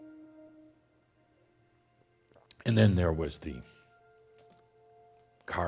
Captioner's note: none